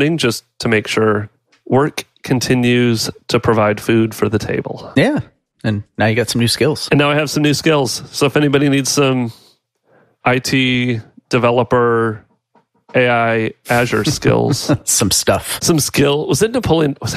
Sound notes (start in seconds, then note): 13.8 laughs